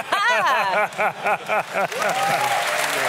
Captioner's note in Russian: смех; публика аплодирует